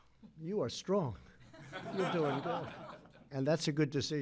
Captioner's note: laughter